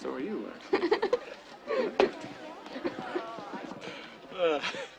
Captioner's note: Marisa laughs